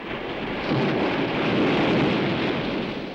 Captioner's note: waves crashing